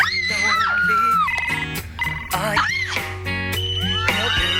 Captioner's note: singing; girls screaming; phones ringing